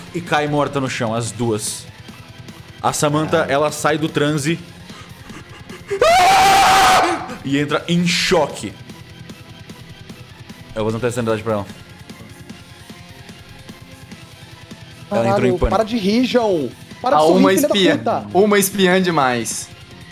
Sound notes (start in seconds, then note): 5.8 screams